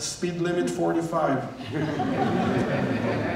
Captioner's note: laughter